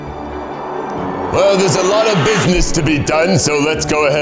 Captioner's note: in puppet voice